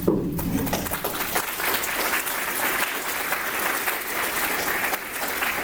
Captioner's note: applause